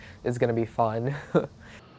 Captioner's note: laugh